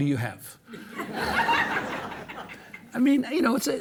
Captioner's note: audience laughing